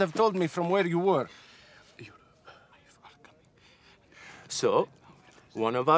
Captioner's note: whispering